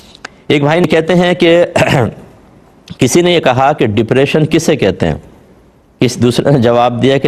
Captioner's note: clears his throat